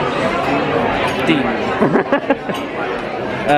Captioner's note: laughs